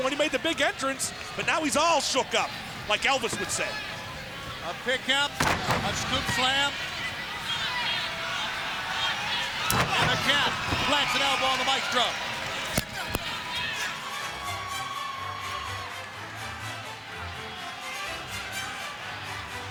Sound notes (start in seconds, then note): 4.0 crowd cheering; 7.6 crowd cheering; 8.8 bodies thudding; 14.6 crowd cheering; 14.6 upbeat pop music